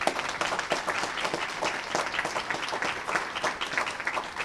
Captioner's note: applause